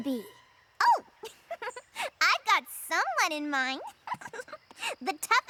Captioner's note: laughs; laughs